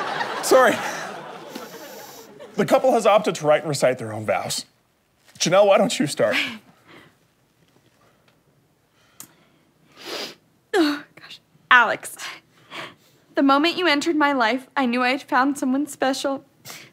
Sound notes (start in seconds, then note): 10.0 sniffs